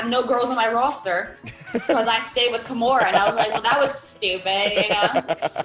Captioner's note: laugh